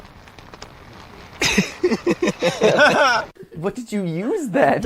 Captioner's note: laughs